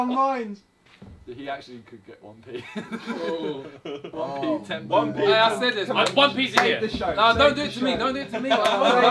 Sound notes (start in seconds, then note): 2.5 all laughing; 6.5 clapping; 8.0 all laughing